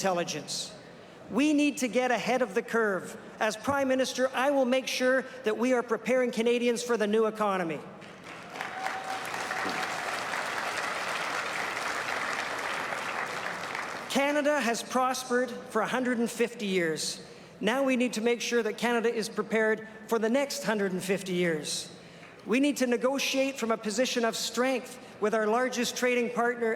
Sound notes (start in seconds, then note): 11.0 applause